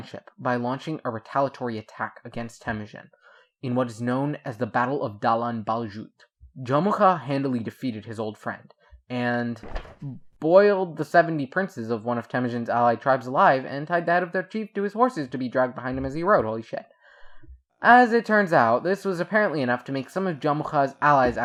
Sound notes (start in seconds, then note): 9.6 rustles papers